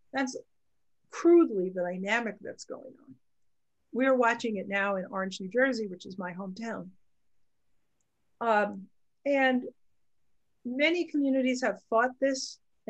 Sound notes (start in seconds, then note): none